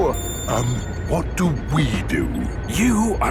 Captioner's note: whispering